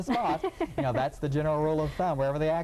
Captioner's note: laughing